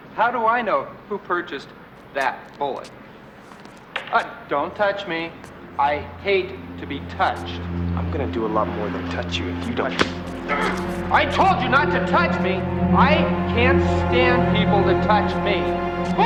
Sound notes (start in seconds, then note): 6.9 slow ominous music; 9.6 grunts